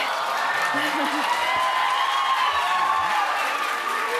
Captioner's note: cheers and applause